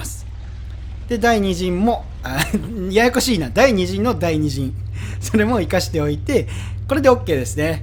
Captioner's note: haha